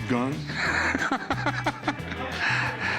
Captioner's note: laughing